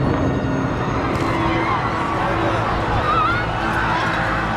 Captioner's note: distant explosion; panicked screaming